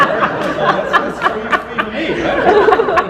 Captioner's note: audience laughter